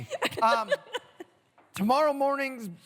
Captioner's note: laughter